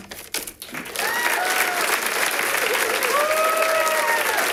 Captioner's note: audience applauding